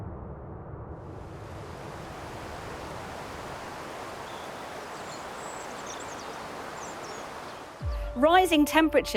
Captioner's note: water flowing